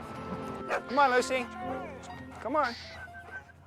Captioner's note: dog barks